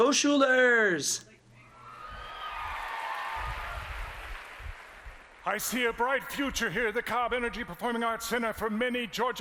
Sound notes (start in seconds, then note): 4.9 applause